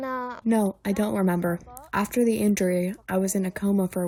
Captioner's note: through translator